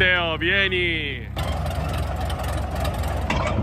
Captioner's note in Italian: suono di fondo di trattore